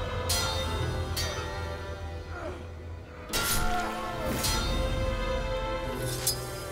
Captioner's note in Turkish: Kılıç ve dövüş sesleri